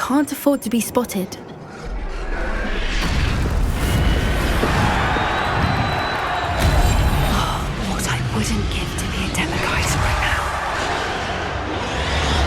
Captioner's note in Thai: เสียงปรบมือ